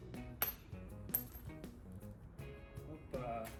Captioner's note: metal pin dropping sound